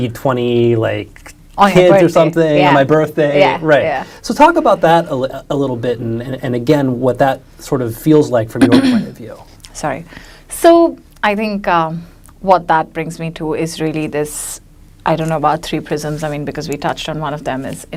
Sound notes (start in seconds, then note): 8.6 clears her throat